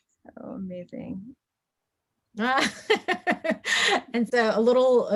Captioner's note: laughs